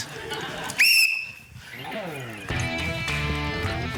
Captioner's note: blows whistle; funky music